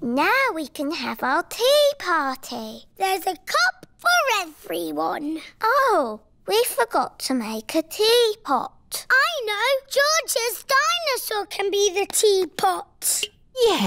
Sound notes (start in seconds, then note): none